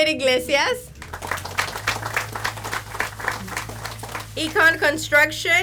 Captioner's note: audience applauds